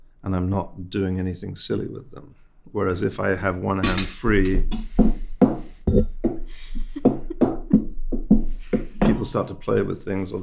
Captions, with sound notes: and I'm not doing anything silly with them. Whereas if I have one hand free... (objects knocking) (host laughing) People start to play with things,